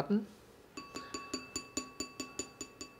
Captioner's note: light clanging